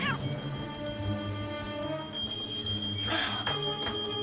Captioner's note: Blinky meowing